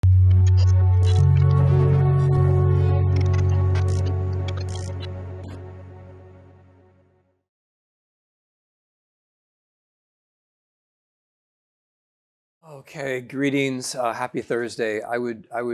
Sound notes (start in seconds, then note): 0.0 static crackling; 0.0 thoughtful music